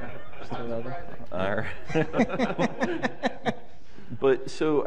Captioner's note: laughter